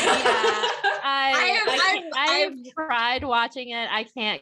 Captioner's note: laughter